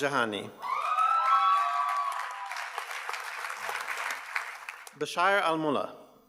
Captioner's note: audience cheers and applauds